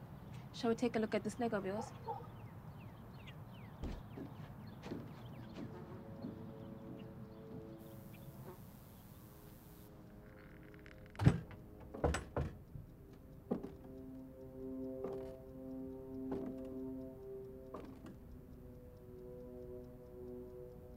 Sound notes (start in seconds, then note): 4.6 tense ominous music; 5.2 fly buzzes